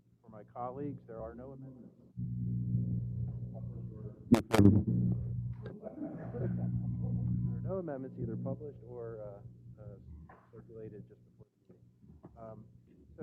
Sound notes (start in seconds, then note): 5.7 laugh